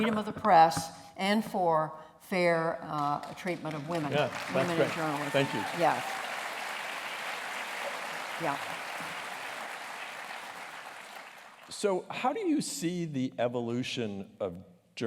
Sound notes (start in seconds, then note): 7.4 applause